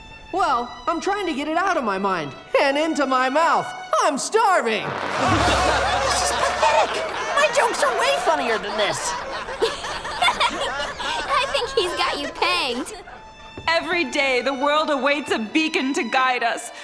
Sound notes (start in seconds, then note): 6.1 audience laughing; 9.3 laughing